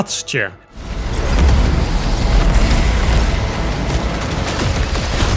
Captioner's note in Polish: dźwięki z gry